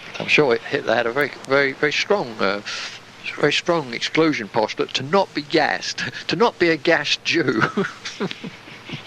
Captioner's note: chuckle